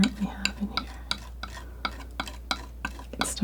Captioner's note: tapping